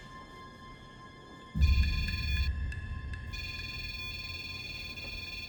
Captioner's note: beeping